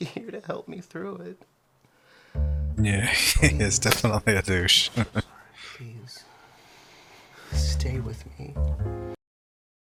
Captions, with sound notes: [Chuckling] Yeah, he is definitely a douche.